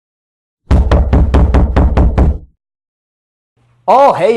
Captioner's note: knocking on door